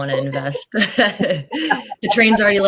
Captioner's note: laughter